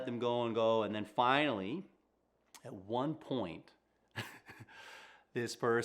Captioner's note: chuckles